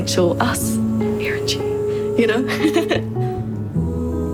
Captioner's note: <i>laughs</i>